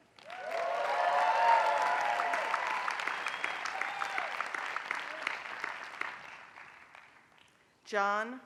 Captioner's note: applause